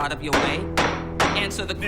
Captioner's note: gavel bangs